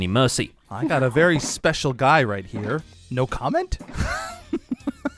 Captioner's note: laughs